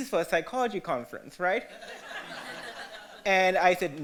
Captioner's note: audience laughter